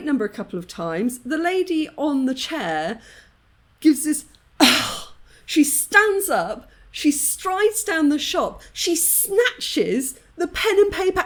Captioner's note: seep sigh